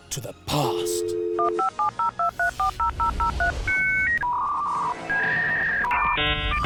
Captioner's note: modem dial-up tone beeps and crackles